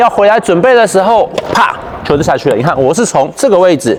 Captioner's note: bam